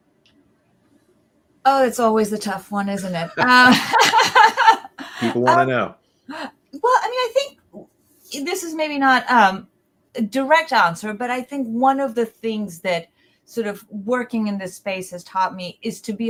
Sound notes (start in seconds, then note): 2.8 laughing